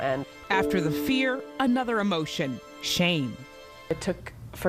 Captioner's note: voiceover